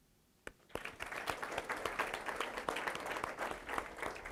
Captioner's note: audience applause